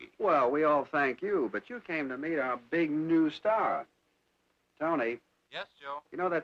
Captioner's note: none